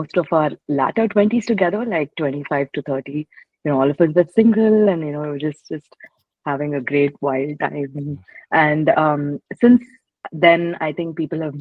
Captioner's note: laughs